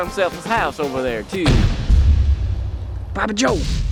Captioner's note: dramatic thud